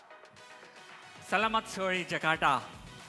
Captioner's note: non-english speech